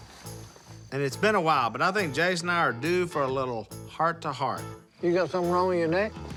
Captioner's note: none